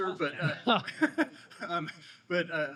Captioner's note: audience laughing